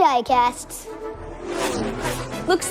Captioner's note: car engines roaring